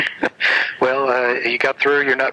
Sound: both laugh

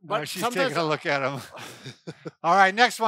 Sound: both chuckle

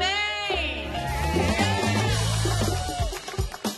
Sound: cheers and applause

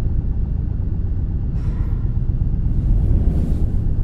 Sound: distorted breathing with echo; shifting around in bed

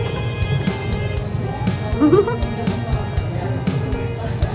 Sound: laughing

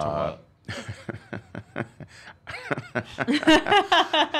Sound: laughs

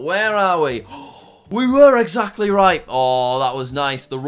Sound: inhales sharply

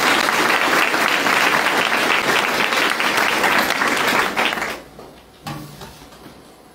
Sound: applause

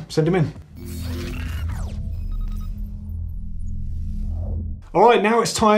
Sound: electronic whirring

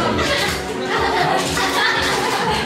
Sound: camera-only laugh

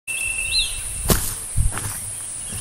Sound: footsteps

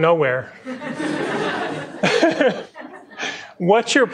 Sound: laughter

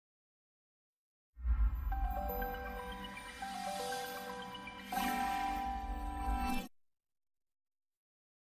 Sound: high-pitched digital chimes, followed by a low-note finale

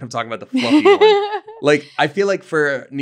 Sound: laughing

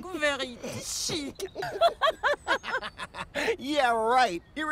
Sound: laughs

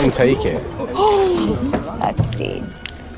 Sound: gasps

